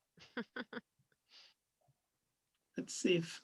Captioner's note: laughing